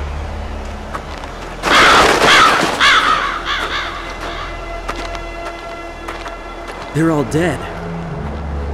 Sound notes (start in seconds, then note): 1.6 delayed cawing